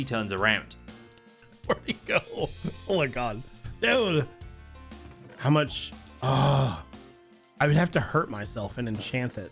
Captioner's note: laughing